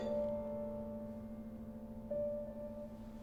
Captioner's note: clanging